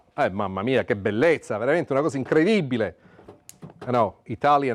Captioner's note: speaking Italian